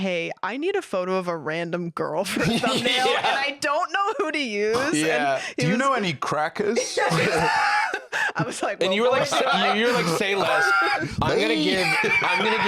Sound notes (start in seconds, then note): 6.9 laughs